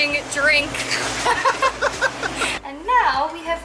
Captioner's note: laughing